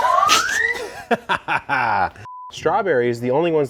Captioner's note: high pitched siren; laughter; beep